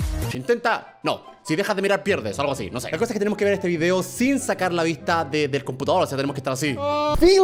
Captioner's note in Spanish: Hablando español